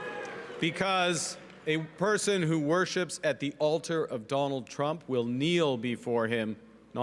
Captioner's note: booing